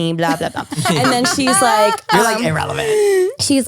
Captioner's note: laughs